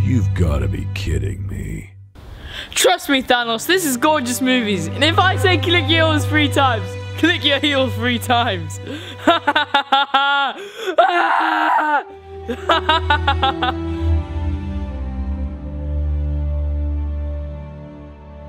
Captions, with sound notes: - You've gotta be kidding me. - Trust me, Thanos. This is Gorgeous Movies, and if I say click your heels three times, click your heels three times. (laughs) (screams) (warm string music)